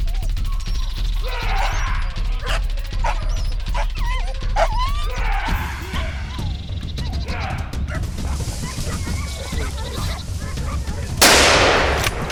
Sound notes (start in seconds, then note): 5.6 dogs barking; 5.6 drivers yelling; 9.6 dogs barking; 11.2 gunshot